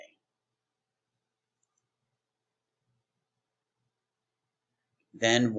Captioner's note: silence